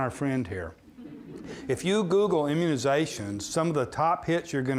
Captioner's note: audience laughing